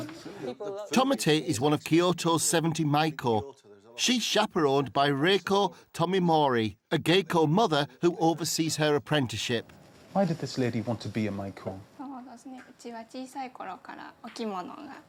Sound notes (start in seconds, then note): 0.9 chuckles; 13.2 woman speaking Japanese